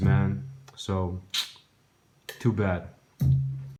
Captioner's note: sucks between teeth